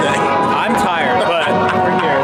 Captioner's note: laughing